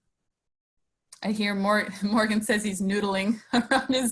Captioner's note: laughs